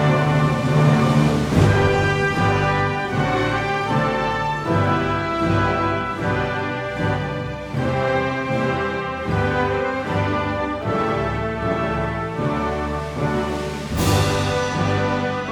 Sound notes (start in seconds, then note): none